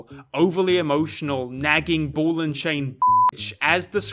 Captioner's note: beep